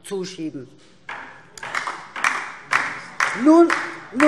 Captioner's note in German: Beifall DIE LINKE